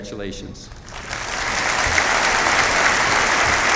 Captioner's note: applause